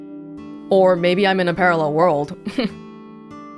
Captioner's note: chuckles